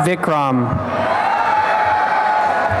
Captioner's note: cheering and applause